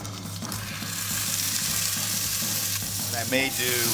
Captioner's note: oil sizzling; upbeat drumming